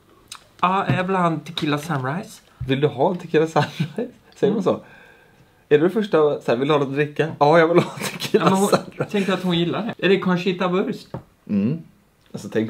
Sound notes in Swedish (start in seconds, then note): 7.8 skrattar till